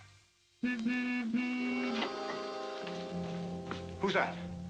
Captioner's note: car horn honks